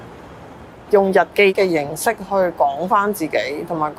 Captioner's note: Cantonese